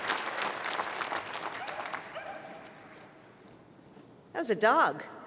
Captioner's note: barking